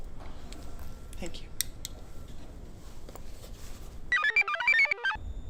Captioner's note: computer chirps; device beeps; device whirs